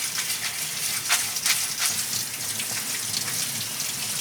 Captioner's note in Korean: 수돗물 소리